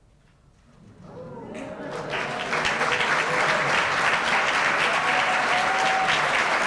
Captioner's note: applause